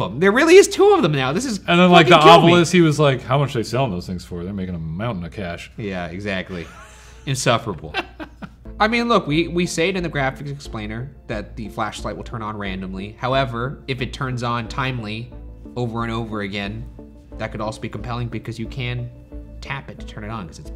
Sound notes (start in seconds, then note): 5.4 wheezes; 6.4 laughing